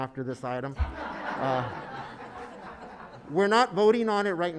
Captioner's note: laughing